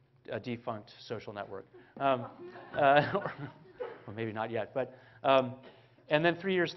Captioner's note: 笑聲; Laughter